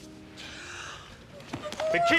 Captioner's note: gasps